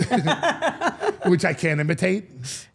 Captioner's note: all laughing